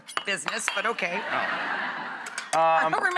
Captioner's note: laughing